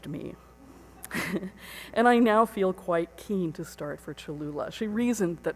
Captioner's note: chuckles